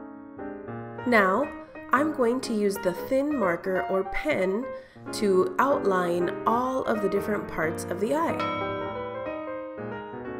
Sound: ding

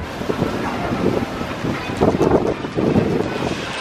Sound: wind blusters

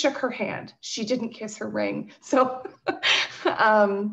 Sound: laughs

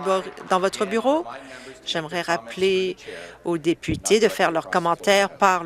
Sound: applause

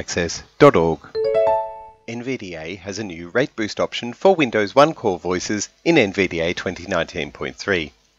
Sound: NVDA start sound

